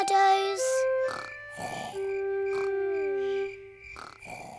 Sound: george snoring

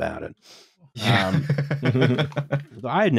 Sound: laughter

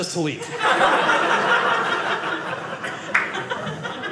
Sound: audience laughing

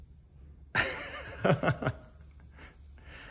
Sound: laughing

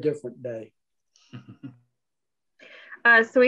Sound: chuckles

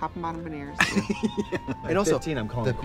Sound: Katya laughs

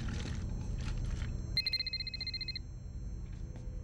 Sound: cell phone rings

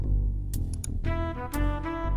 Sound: sounds of mouse clicking

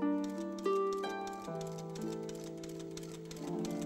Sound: machine clicks

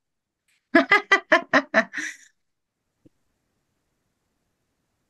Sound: person laughing

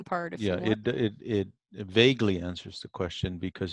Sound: on phone

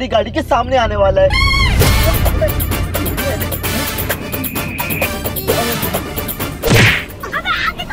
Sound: quarreling

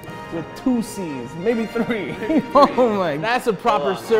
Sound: laughs

